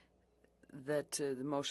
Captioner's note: speaking French